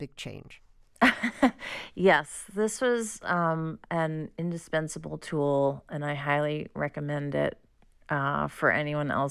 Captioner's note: laughter